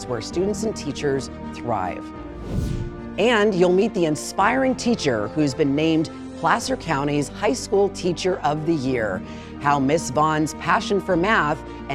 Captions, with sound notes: where students and teachers thrive. (air whooshing) And you'll meet the inspiring teacher, who's been named Placer County's High School Teacher of the Year, how Ms. Vaughan's passion for math